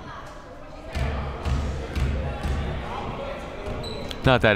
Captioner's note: ball pounding